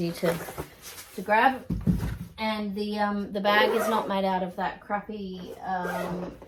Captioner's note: gentle thud; zip noise; zipper noise